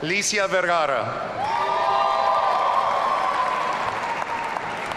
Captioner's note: audience cheering